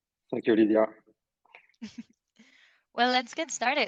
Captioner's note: chuckles